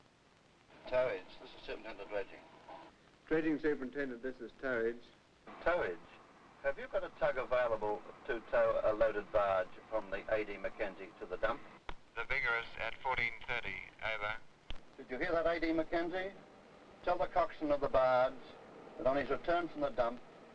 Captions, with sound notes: (speaking over radio) "Towage. This is Superintendent Dredging." "Dredging Superintendent. This is Towage." "Towage. Have you got a tug available to tow a loaded barge from the A.D. Mackenzie to the dump?" "The Vigorous at 14:30. Over." "Did you hear that A.D. Mackenzie?" "Tell the coxswain of the barge that on his return from the dump,